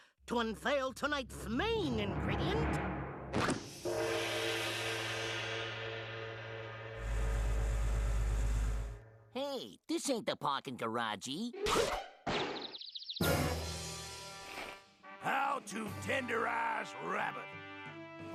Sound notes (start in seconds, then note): 4.0 bell tolling